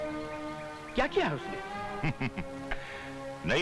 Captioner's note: Chuckles